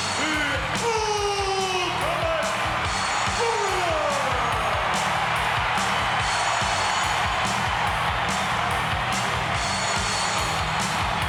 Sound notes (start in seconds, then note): 4.2 crowd cheering; 4.2 upbeat music